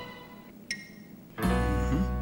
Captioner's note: cartoon blink noise